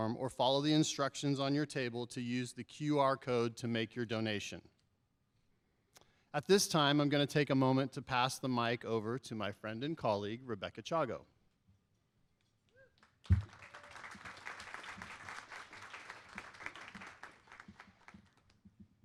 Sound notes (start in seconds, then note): 13.0 applause